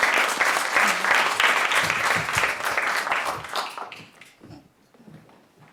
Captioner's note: applause